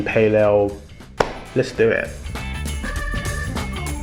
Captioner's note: upbeat music; claps